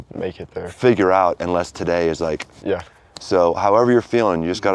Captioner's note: fingers snapping